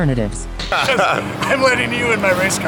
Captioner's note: laughter